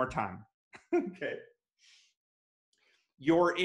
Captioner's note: laughs